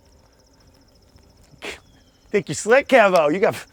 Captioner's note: chuckles